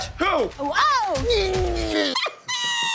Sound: grunting

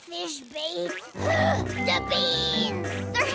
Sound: gasps

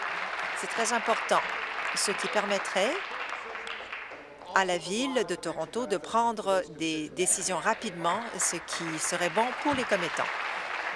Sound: applause

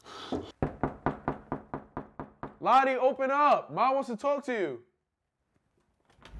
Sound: heavy Breathing; knocking

